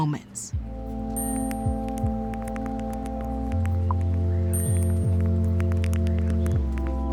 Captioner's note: keys tapping, beeping